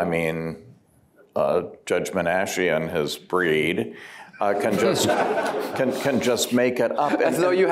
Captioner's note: laughter